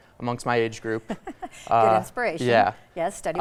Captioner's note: laughs